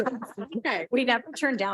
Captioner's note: board Trustees chuckle